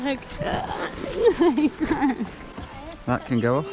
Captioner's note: laughing